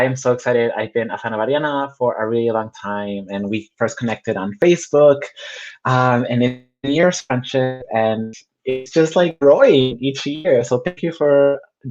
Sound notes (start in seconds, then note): 5.3 technical glitch